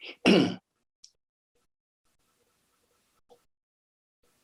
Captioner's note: clears throat